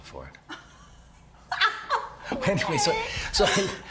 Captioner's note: Cassidy laughing